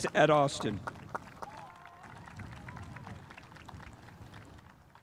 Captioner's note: spectators applauding